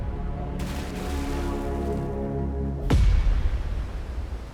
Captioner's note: water splashes